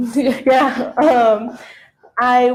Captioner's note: laughing